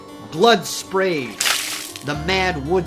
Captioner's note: blood spattering